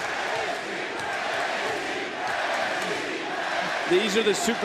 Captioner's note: crowd chants